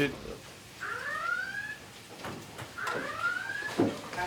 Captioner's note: sirens